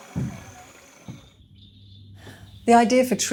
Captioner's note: bugs chirping